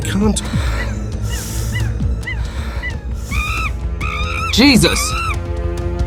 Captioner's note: monkeys screaming